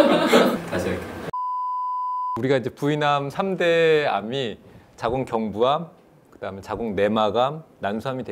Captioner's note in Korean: 웃음